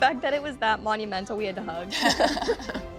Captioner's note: laughter